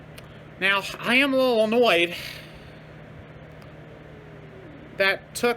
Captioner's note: Caprice growls in anger